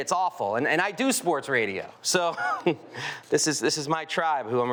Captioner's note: chuckles